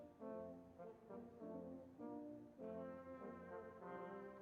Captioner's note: none